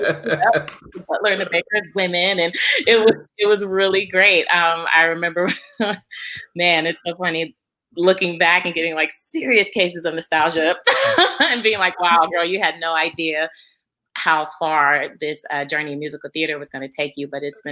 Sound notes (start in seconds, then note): 6.1 laughs; 10.8 laughs